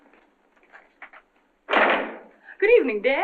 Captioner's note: door slams